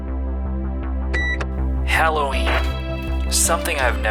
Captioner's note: beeps